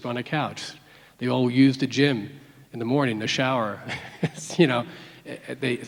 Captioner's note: laughs